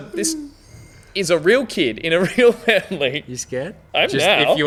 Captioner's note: laughing